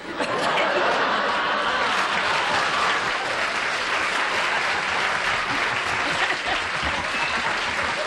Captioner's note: applause